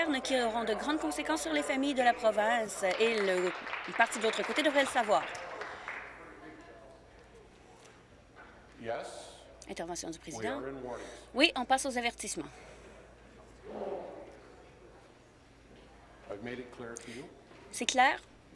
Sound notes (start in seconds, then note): 6.1 applause